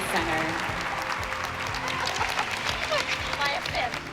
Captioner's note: applause; laughs